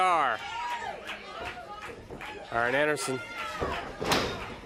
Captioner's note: crowd chatter